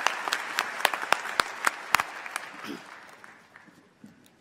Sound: applause

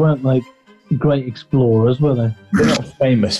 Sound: sniggering

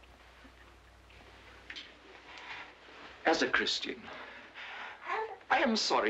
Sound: baby cooing

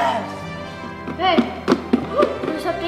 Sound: box rattles

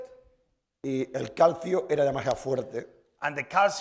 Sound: speaking spanish

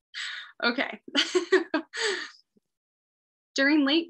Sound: laughing

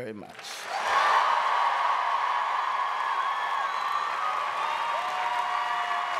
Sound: audience cheering and applauding

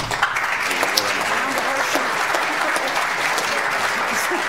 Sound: audience applauds

